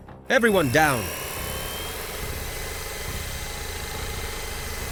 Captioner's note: drone whirring